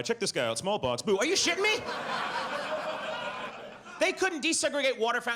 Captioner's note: audience laughs